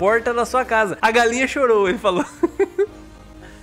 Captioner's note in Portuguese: risos